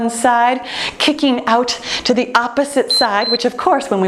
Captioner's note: timer beeping